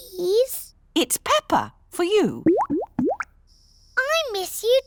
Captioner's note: bubbling